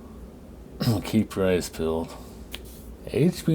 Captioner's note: clears throat